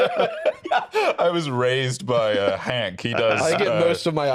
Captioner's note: laughs